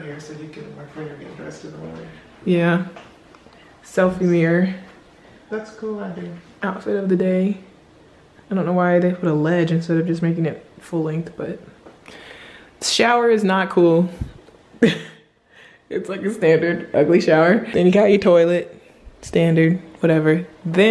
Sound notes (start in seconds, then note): 14.8 laughs